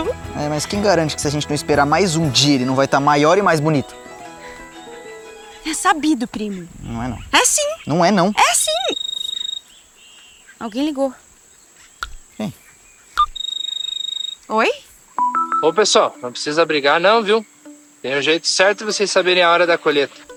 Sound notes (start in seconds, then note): 9.1 cell phone ringing; 13.3 mobile phone ringing